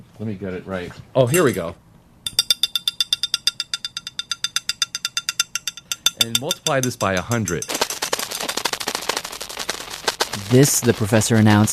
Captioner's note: sound of a pen striking a glass